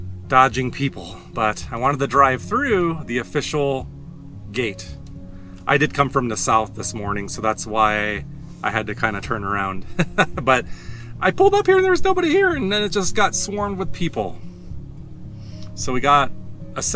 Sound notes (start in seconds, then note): 9.9 laughs